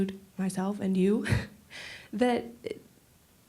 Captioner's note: chuckling